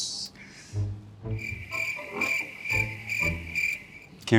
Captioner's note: cricket noises